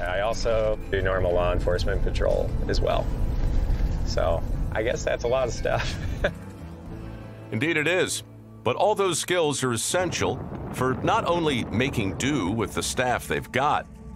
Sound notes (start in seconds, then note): 5.6 laughs